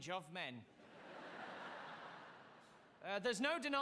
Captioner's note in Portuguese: audience laughing